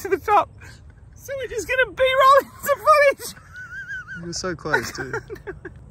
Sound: laughs

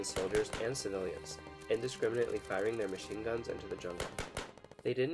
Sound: volley of gunshots

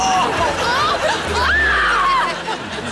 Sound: screaming

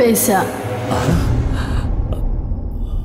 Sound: gasps

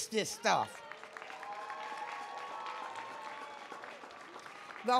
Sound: audience cheering

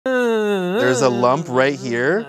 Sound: groaning

